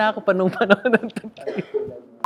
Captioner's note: giggles